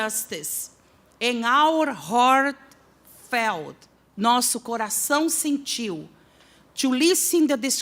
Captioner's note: non-english speech